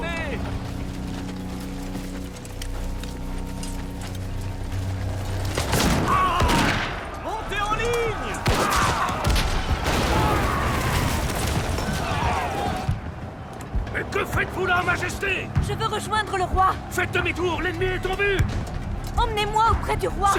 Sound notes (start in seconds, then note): 5.9 guns firing; 8.3 cannon blasts